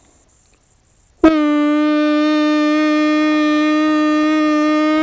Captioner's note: howling